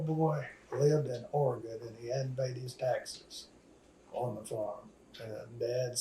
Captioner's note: laughs